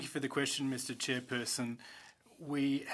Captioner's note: speaking French